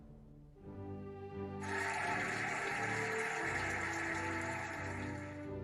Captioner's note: cheering and applauding